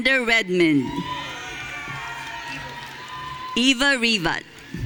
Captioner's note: audience cheering